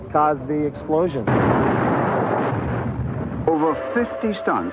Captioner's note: explosion booming